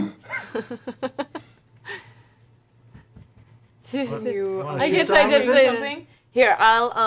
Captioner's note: laughs